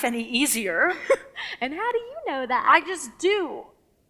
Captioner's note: chuckles